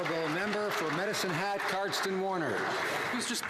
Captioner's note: some Applause